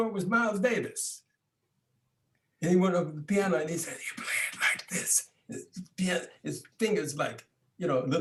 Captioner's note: whispers